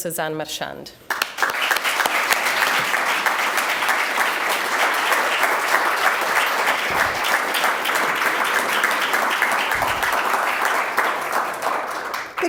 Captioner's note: applause